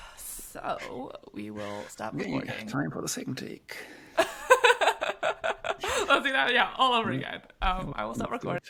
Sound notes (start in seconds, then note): 4.2 laughs